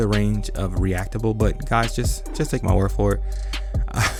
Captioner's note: laughs